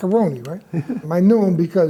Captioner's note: laughs